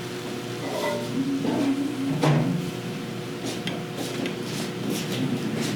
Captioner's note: indistinct kitchen noises